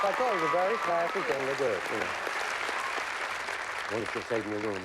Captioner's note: applause